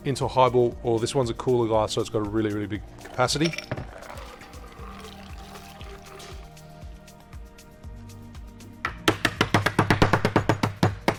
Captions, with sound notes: into a high-ball or this one's a cooler glass. So, it's got a really, really big capacity. (liquid pouring) (banging)